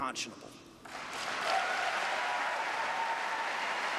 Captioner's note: applause